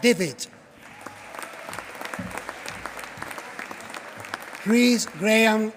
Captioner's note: applause